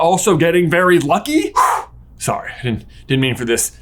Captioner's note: exhales sharply